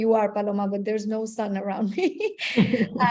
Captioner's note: laughs